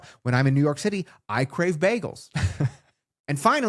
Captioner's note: laughs